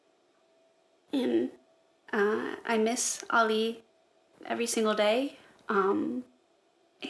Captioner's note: shaky voice